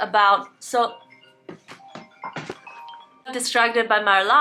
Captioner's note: alarm went off